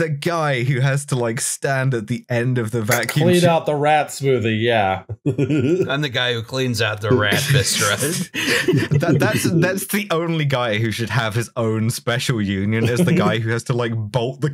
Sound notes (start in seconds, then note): 3.4 TASTY beer can snap; 5.1 laughter